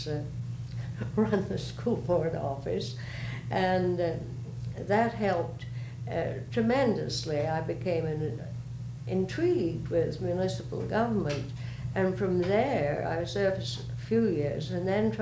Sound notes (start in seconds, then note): 3.6 laughs